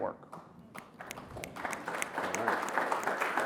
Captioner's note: applause